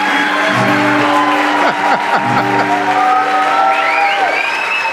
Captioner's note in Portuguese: Risos e aplausos